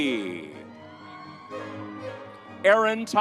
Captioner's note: vibrant music continues; audience cheers